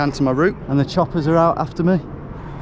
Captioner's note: helicopter whirring